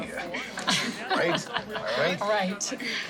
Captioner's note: Tracy laughing